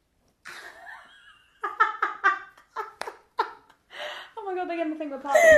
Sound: laughing

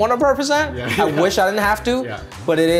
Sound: laughter

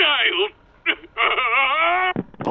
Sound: crying

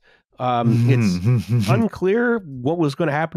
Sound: laughs

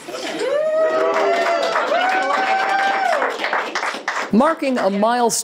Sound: nurse laughing; group applauding; group cheering

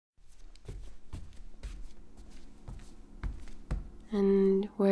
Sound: not so subtle footsteps

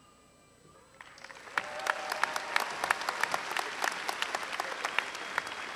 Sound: applause

